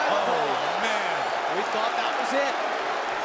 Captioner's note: crowd cheering